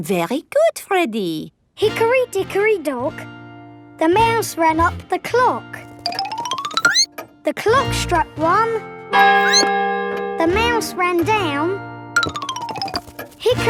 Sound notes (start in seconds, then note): 9.4 squeaks; 9.4 clock chimes